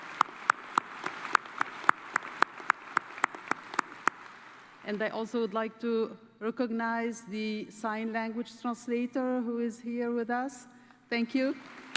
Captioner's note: cheers and applause